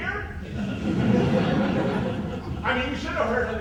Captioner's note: audience laughs